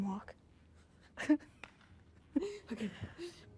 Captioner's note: laughs